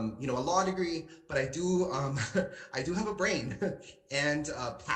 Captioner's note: laughs